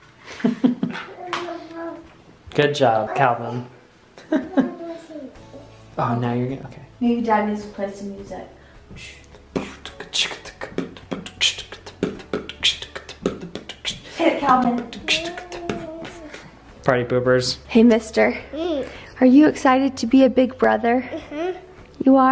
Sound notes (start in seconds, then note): 0.3 chuckles; 9.4 beatboxing